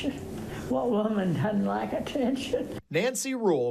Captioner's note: laughs